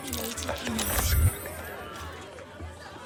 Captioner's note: whispers